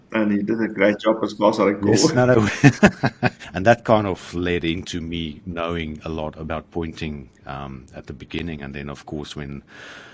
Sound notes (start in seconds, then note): 2.0 both laugh